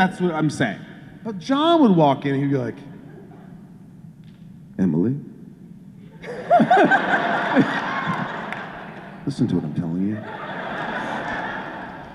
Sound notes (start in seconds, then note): 6.1 laughter